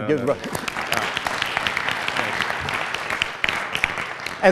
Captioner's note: applause